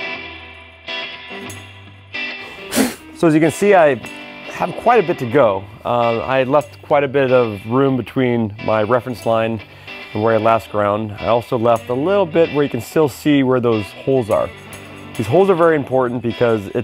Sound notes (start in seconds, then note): 2.5 blowing Sawdust